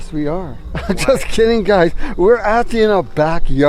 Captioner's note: laughing